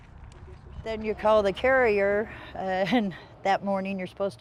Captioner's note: laughs